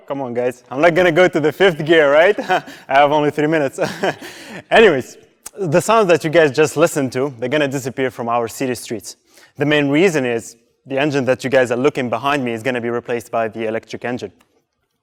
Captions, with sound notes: - Come on guys, I'm not gonna go to the fifth gear, right? I have only 3 minutes. (laughs) Anyways, the sound that you guys just listened to is gonna disappear from our city streets. The main reason is, the engine that you guys are looking behind me is gonna be replaced by the electric engine.